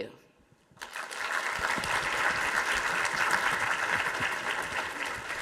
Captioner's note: audience applauding